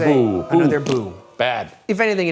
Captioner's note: blows raspberry